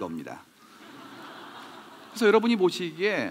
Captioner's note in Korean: 웃음